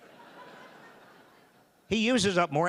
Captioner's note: audience laughing